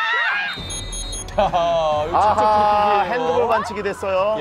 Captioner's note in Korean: 호루라기 소리